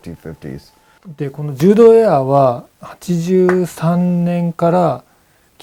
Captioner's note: speaking in foreign language